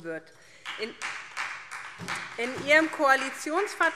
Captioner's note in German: Beifall